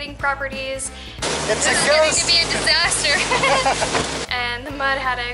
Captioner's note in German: Lachen